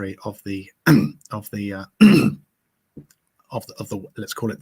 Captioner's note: clearing throat